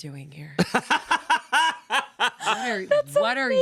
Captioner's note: laughs